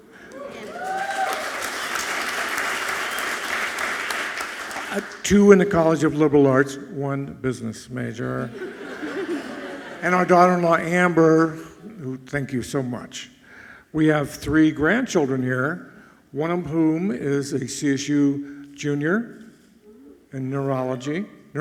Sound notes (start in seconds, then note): 0.0 audience clapping and cheering loudly; 8.4 audience laughing softly